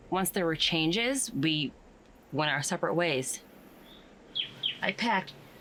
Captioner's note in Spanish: none